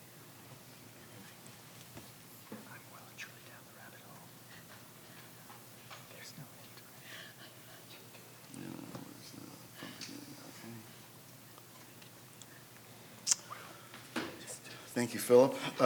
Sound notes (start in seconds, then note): 3.1 faintly speaking